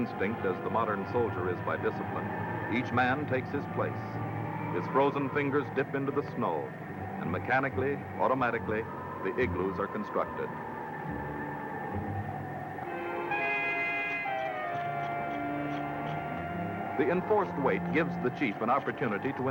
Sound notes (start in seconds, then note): 10.7 wind howling; 13.2 instrumental music